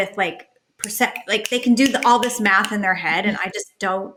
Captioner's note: snaps fingers